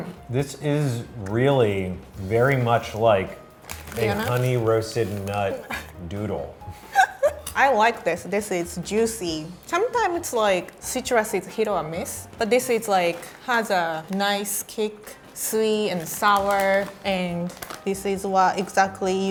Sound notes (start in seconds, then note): 6.9 laughing